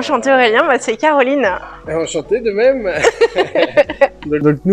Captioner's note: laughs